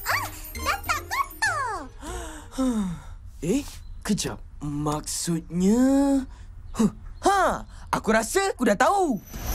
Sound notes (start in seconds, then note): 2.0 relieved sigh; 6.8 gasps